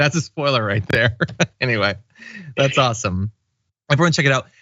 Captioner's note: laugh